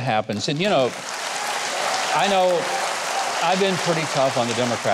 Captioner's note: applause